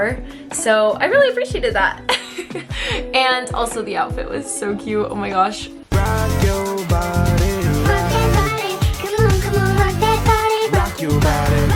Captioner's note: giggles